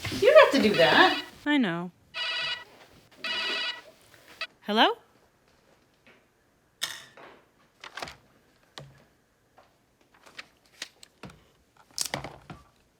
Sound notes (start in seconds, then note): 3.2 phone rings